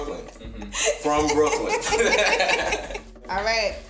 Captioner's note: chuckles